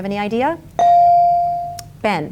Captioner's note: bell dings